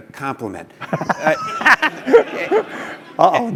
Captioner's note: laugh